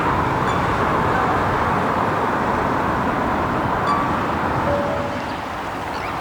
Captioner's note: car honking; birds chirping